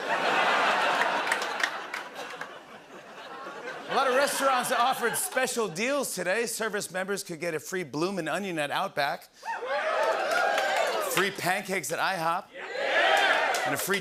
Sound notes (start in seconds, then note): 0.0 laughter; 9.4 cheers; 13.1 cheers